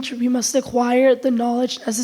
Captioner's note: none